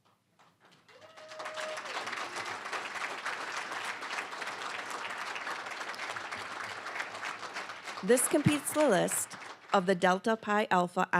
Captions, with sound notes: (applause, cheering) This completes the list of the Delta Pi Alpha